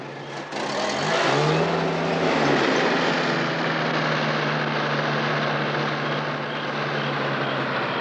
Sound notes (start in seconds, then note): 2.2 engine rumbling